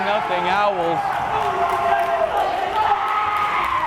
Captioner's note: crowd cheering